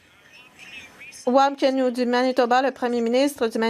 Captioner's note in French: voix de l'interprète